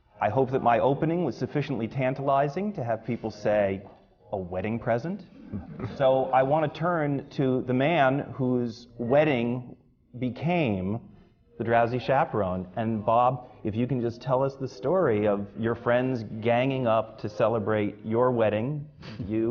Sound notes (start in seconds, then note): 5.4 laughter